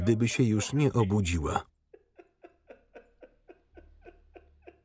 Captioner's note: sobbing